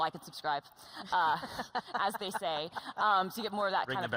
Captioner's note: laughter